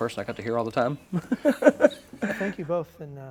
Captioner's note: laughs